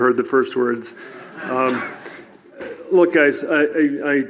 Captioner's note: audience laughs